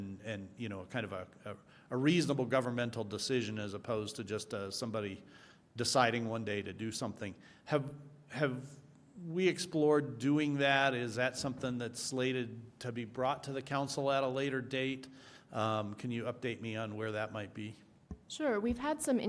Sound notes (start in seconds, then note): none